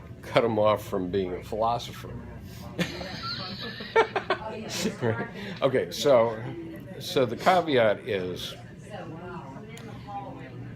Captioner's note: laughter